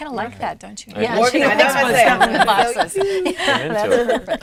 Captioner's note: all laughing